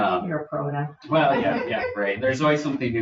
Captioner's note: people chuckle